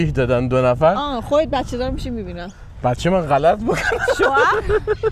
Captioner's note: laughs